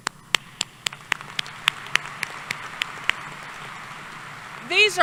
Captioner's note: applause